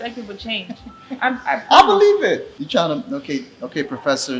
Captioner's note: laughs